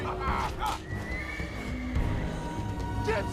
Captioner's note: horse whinnies